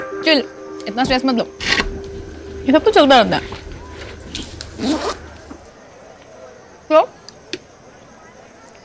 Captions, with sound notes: Chill. Don't be stressed. It all keeps happening. [Unzipping] So...